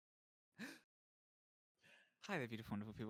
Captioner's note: gasps